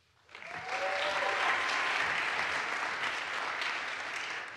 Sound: audience applauds

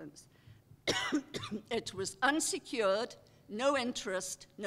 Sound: cough

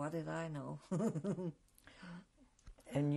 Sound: laughs

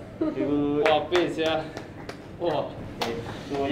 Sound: claps

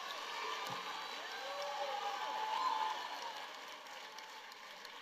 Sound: congregation cheering

